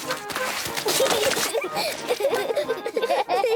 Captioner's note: both laugh